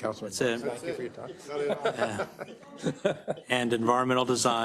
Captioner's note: laugh